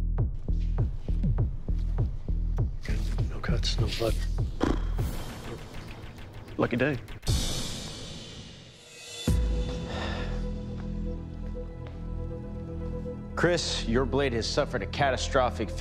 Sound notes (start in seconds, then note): 4.6 raspberry; 9.6 dramatic music; 9.7 sigh